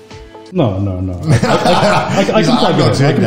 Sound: group laughs

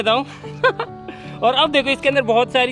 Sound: laughing

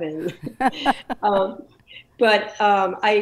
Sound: laughs

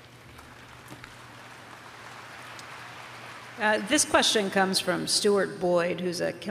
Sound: applause

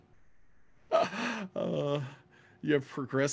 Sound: laughs

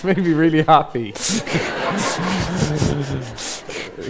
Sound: audience laughs

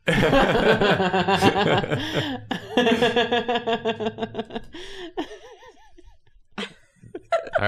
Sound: laughter

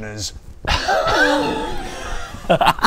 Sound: mic drop; laughs in respect

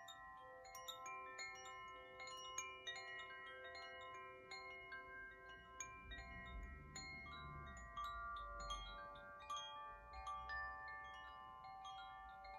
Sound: chimes

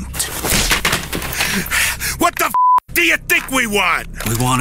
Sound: smack; beep

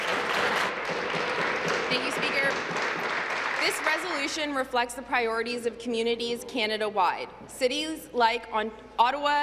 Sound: applause

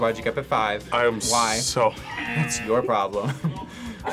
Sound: buzzer rings

